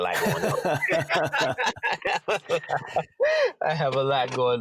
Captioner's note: both laugh